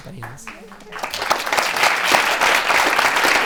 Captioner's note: applause